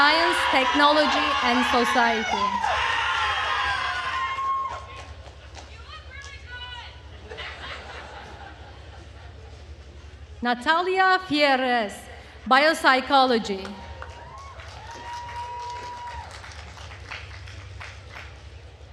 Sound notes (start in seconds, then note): 2.9 attendees cheering and applauding; 7.1 attendees laughing; 13.6 attendees cheering and applauding